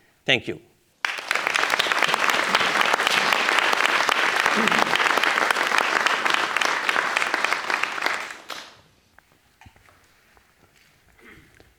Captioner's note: applause